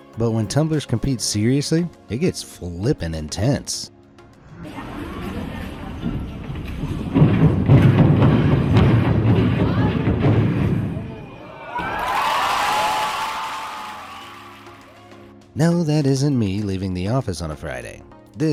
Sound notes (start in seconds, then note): 11.0 crowd cheering; 14.4 upbeat music